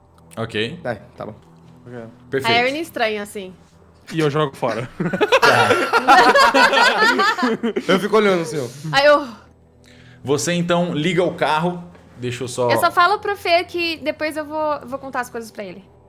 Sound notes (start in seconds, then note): 4.5 laugh; 9.6 sighs in relief